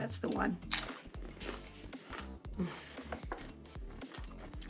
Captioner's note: crunching sound